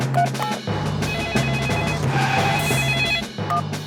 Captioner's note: beeping; phone ringing